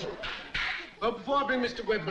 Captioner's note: hands clap